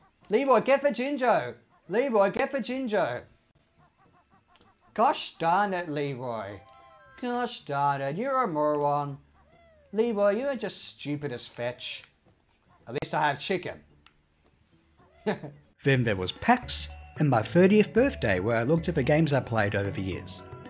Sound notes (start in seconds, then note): 15.0 chuckles